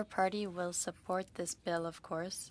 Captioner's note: speaking in French